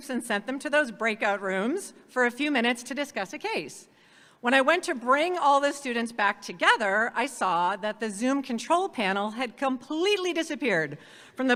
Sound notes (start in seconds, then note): none